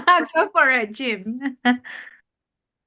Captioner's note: chuckles